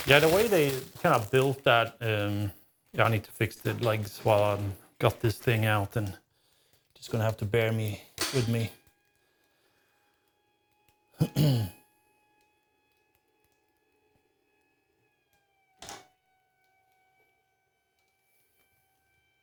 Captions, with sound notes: Yeah, the way they kind of built that, I need to fix the legs while I got this thing out and just gonna have to bear with me. (Clears Throat)